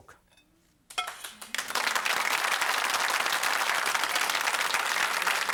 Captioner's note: audience clapping